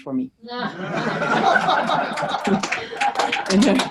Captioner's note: audience laughs